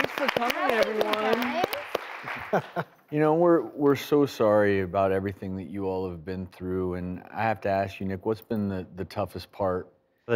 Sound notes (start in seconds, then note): 2.3 laughs